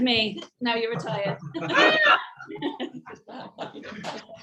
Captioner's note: all laugh